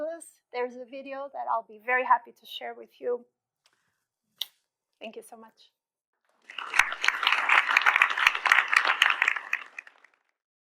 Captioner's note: applause